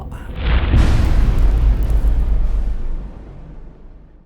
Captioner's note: impact